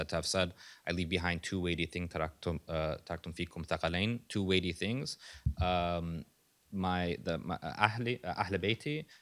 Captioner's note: non-english speech